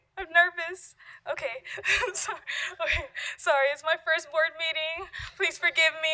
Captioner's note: laughter